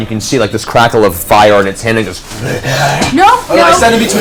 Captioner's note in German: panische Geräusche